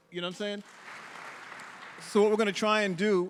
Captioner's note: audience applauding